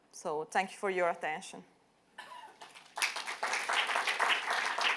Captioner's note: applause